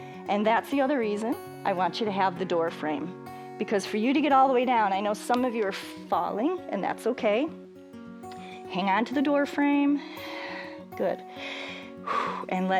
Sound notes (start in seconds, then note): 11.2 exhales; 11.2 inhales and exhales